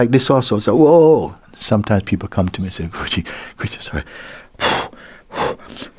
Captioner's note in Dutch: hijgt